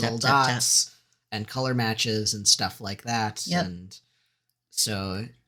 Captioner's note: none